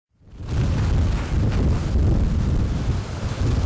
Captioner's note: sound of Hurricane Winds